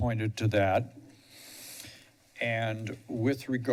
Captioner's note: pause